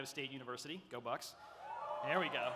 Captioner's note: audience cheering